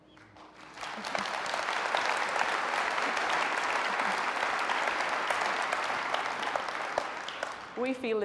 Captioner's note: applause